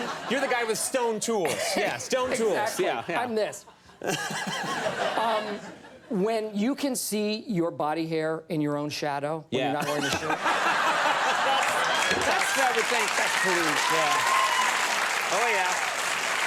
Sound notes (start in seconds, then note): 3.7 audience laughs; 3.9 laughs; 9.8 laughs; 11.4 audience laughs